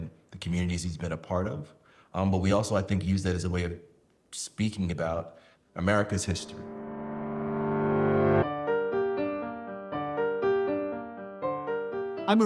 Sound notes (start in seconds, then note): none